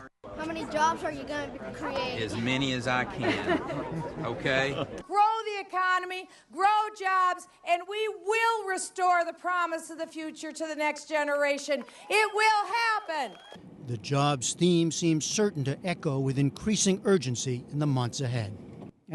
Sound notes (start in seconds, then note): 2.8 laughter; 11.8 cheering and applause